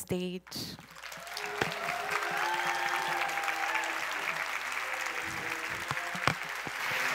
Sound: applause

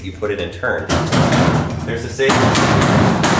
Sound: banging on safe

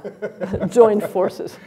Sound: laughs

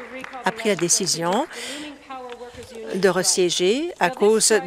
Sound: applause

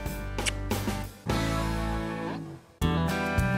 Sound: smooch

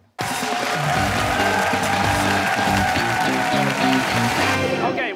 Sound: cheers and applause

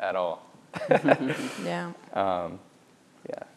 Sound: laughs

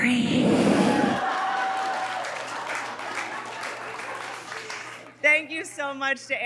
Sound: audience laughing and applauding

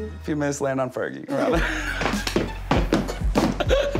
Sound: laughing

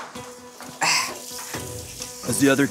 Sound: water splashing

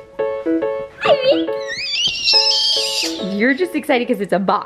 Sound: screams

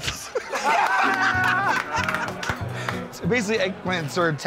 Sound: laughter

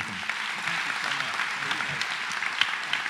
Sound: applause

